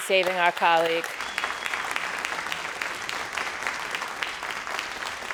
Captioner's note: crowd applauding